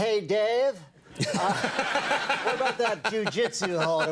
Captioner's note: audience laughing